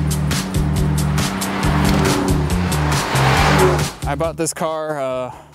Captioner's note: engines revving